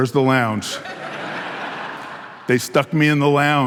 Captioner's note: audience laughing